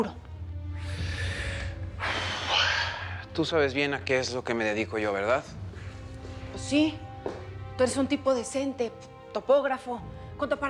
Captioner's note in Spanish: él resopla